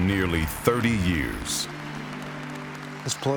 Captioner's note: audience applauding